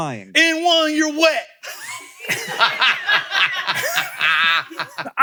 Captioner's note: all laughing